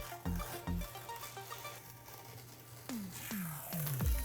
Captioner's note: tape fizzing